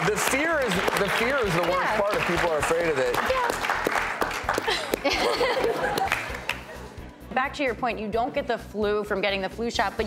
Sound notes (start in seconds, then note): 4.6 laughing